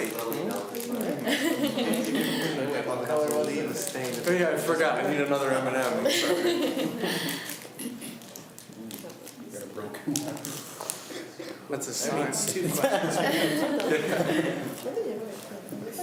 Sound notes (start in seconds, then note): 6.0 laughs; 9.8 students talk amongst themselves